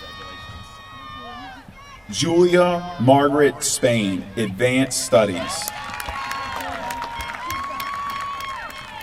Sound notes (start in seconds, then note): 5.6 applause